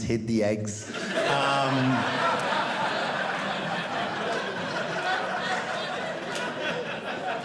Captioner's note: audience laughing